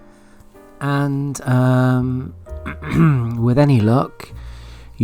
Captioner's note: coughs